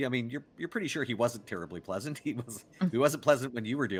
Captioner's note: chuckles